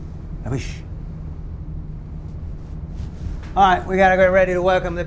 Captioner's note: speaks in foreign language